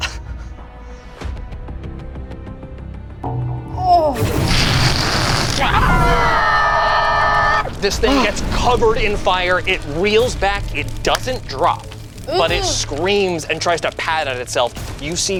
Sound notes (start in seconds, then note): 0.2 suspenseful music; 5.1 screams